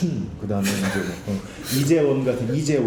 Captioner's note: laughing